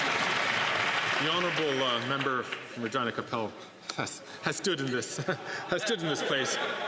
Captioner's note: some Applause